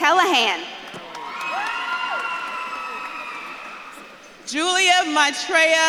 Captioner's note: audience claps and cheers